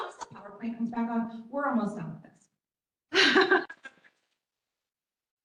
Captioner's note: chuckles